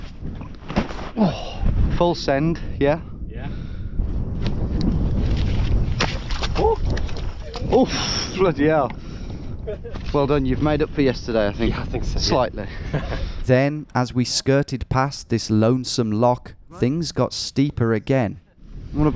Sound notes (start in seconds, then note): 1.6 bag thudding; 5.9 water splashing